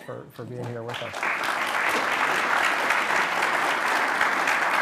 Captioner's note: applause